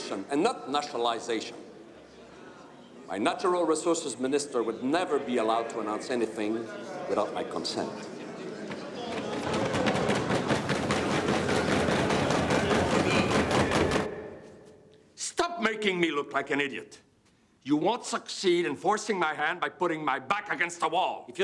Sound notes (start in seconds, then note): 7.2 men chattering indistinctly; 9.0 hands pounding